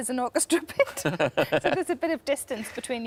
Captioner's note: laughs; Tom laughs